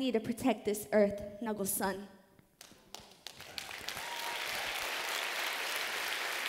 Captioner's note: applause